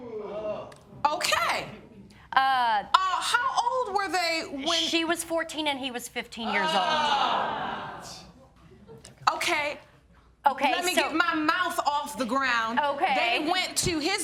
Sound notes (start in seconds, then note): 6.5 audience exclaims